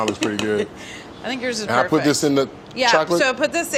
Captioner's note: laughs